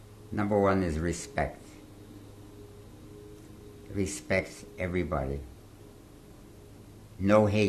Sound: pauses for 3 seconds

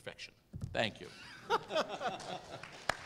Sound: laugh

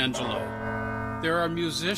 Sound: bell ringing

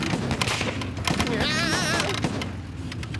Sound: engine sputtering; yelling; engine dying

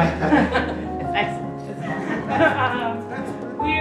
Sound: laughter

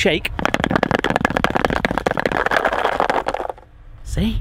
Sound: object thumping

